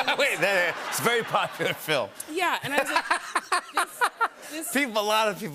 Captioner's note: laughter; laughs